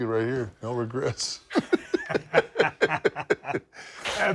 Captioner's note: laugh